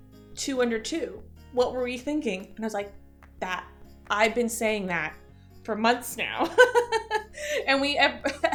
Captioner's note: chuckle